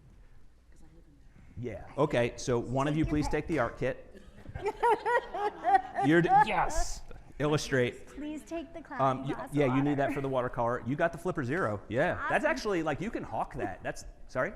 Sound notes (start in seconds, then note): 4.2 laughing